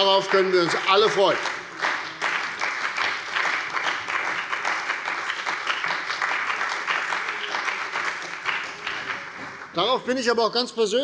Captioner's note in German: Beifall bei der CDU und dem BÜNDNIS 90/DIE GRÜNEN